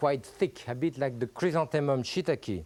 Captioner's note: speaks French